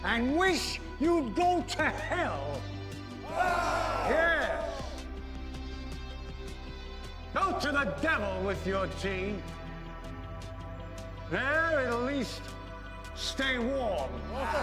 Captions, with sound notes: and wish you’d go to hell! - [Crowd] (cheering) - Yes! Go to the devil with your tea. There, at least, stay warm.